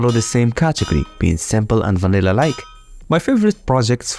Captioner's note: Villager Names, double doors, fish bell